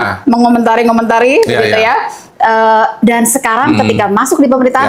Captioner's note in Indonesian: berdehem